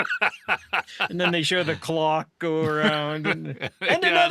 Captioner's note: laughing